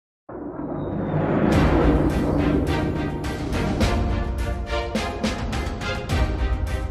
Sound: epic music; spacecraft thrusters roar

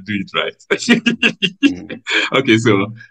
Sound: laughs

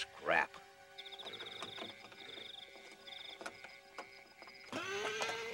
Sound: door latch clicking; Sam neighs

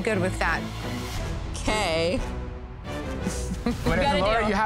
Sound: chuckles

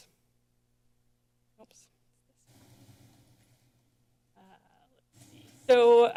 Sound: silent

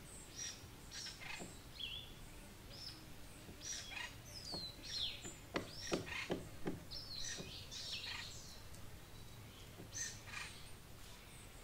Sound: birds singing, woodpeckers tapping, bees buzzing

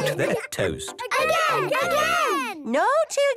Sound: children calling out

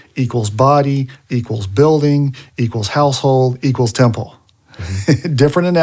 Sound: laughs

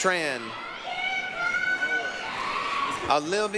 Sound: applause, cheering

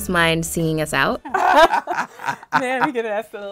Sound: laughing

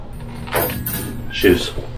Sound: metal clanging

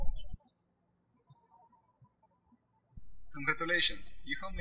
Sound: birds chirping

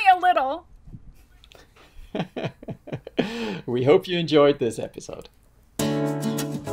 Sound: laughs

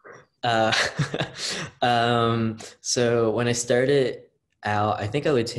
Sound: laughs

